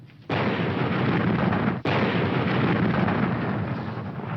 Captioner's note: canons firing